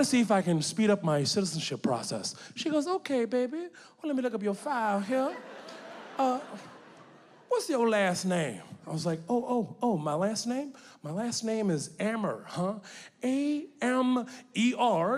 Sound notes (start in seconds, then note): 5.1 audience laughing